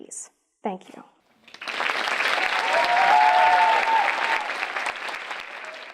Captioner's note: audience applauding; audience cheering